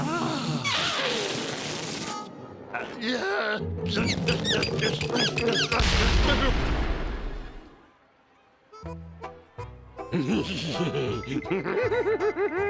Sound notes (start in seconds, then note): 1.7 escaping air squealing; 5.8 explosion booms; 10.6 laughing sinisterly